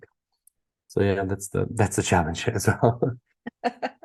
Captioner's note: laughing